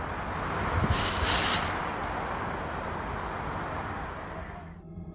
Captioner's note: leaves rustling